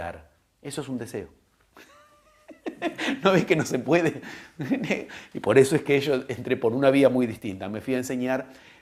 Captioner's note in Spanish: risas